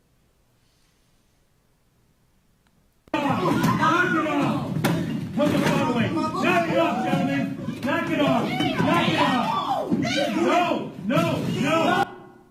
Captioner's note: video noise